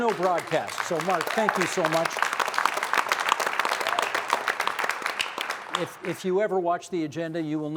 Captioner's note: applause